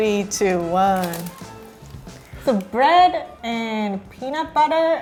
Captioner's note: none